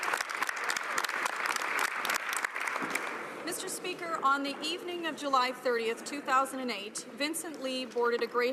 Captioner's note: some Applause